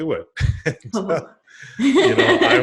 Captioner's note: both laugh